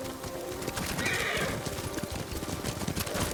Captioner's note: horse neighs